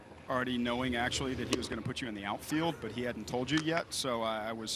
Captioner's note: laughing